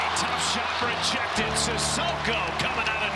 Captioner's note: crowd cheering